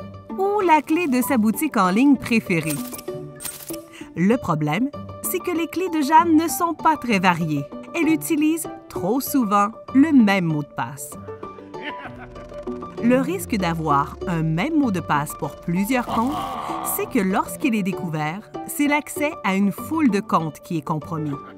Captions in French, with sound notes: ou la clé de sa boutique en ligne préférée. Le problème, c’est que les clés de Jeanne ne sont pas très variées. Elle utilise trop souvent le même mot de passe. (rire inquiétant) Le risque d’avoir un même mot de passe pour plusieurs comptes, (rire) c’est que lorsqu’il est découvert, c’est l’accès à une foule de comptes qui est compromis.